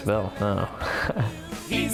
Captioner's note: laughing